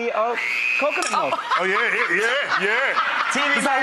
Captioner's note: laughing